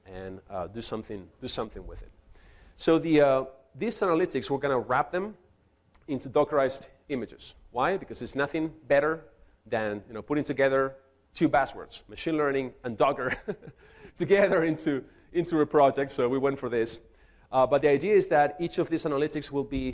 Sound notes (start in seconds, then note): 13.2 chuckles